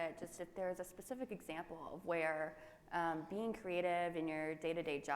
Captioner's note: none